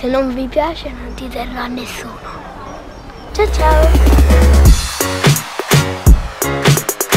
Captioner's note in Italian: Applauso